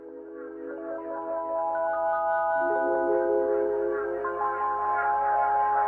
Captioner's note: none